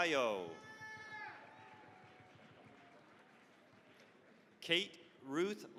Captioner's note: cheering, applause